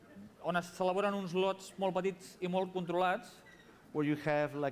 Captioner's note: non-english speech